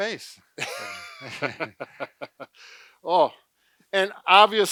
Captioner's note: both laugh